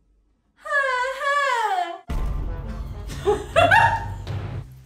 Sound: mimicing tv show theme

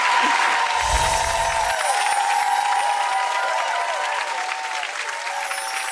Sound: audience clapping and cheering

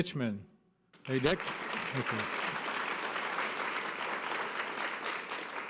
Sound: audience applause

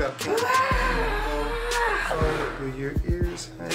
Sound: shouting

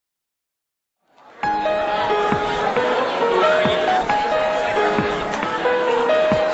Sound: indistinct chatter; upbeat electronic music

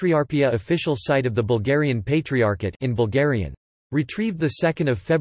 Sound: in Bulgarian

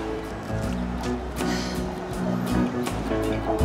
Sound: sighs

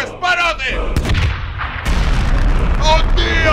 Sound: exploding sounds

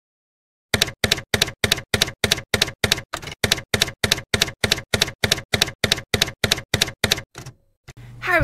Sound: typewriter keys clacking

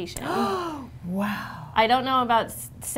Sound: gasping

